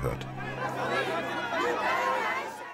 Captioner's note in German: Aufgewühlte Stimmen